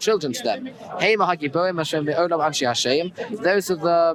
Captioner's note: Hebrew